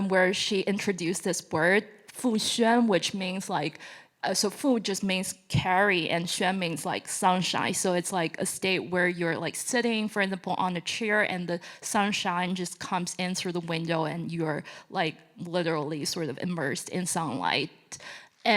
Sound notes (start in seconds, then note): 1.9 speaking Chinese; 4.1 speaking Chinese